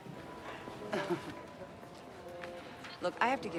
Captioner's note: Jamie chuckles